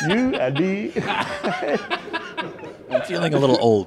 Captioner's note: laughing